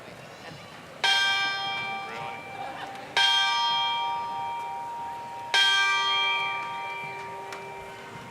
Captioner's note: Ringing of the Alumni Bell